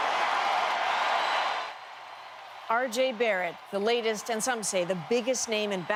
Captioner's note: cheers and Applause